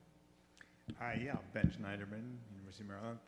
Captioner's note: voiceover